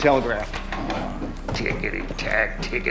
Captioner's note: grunts